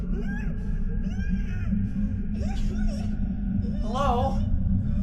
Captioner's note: disembodied crying